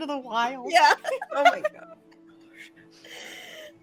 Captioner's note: laughing; all laughing